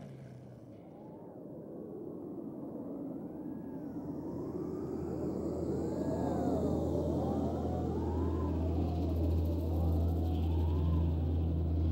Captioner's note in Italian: sibili di vento